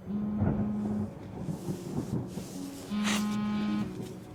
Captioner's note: phone vibrating